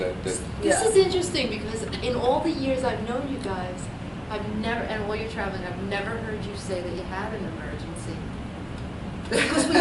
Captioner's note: laughs